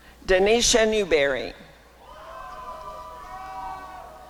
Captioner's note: applause and cheering